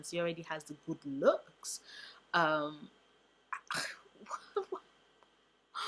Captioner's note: laughs-cries